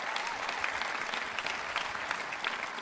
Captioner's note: cheering and applause